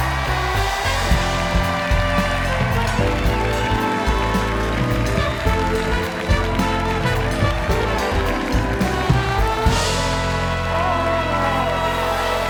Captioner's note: cheers and applause